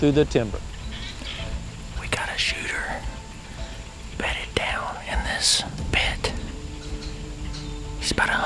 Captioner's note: whispering